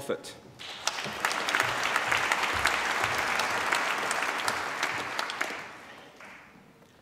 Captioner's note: applause